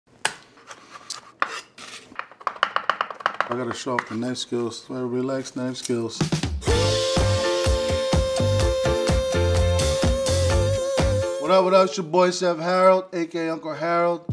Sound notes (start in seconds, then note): 0.2 knife chopping on board; 6.3 upbeat music